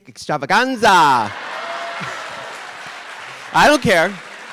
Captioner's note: audience applauding